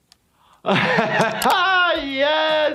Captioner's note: laughs